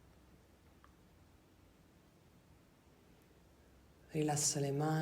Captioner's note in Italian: none